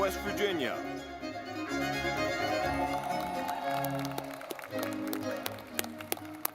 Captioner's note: lively music; audience clapping